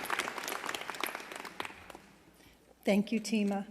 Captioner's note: applause